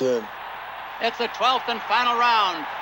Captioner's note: crowd cheering